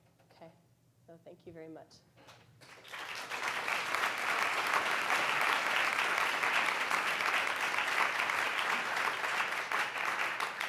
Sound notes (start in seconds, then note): 2.6 audience applauds